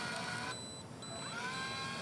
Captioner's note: beeping; machine whirring